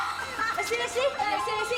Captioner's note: laughing